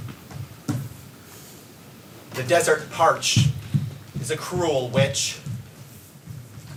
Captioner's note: dancer's feet pitter-patter